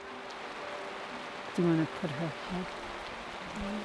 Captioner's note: rain falling